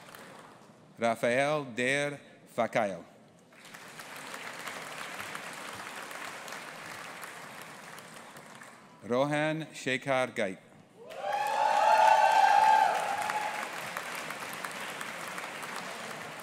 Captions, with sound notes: Rapheal Dare Fakile. (AUDIENCE APPLAUDING) Rohan Shekhar Gite. (AUDIENCE APPLAUDING AND CHEERING)